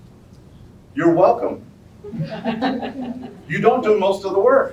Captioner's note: soft laughter